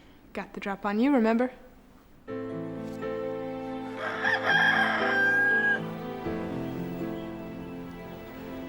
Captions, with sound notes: - Got the drop on you, remember? (emotional music) (rooster crows)